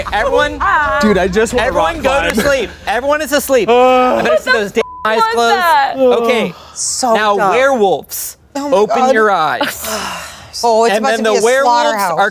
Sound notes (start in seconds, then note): 4.8 beep